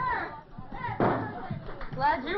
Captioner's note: bang!